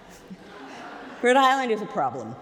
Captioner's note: crowd laughing